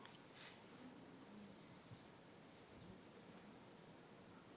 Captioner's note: people murmuring